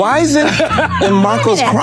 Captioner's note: Steve laughing